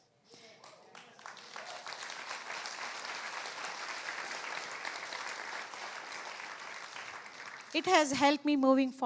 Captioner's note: applause